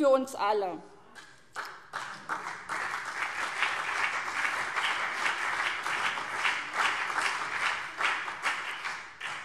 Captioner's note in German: Beifall CDU und BÜNDNIS 90/DIE GRÜNEN